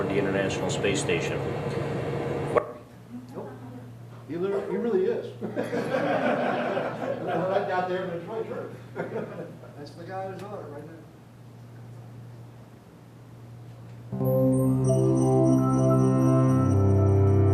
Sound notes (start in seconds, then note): 5.4 laughter; 8.1 speaking off microphone; 8.8 laughter; 14.1 dramatic music